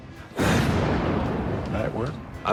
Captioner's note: explosion sound effect